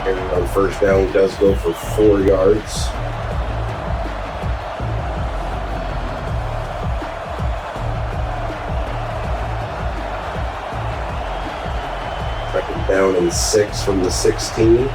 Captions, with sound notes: And the first down does go for four yards. [Crowd Noises] Second down and six from the 16.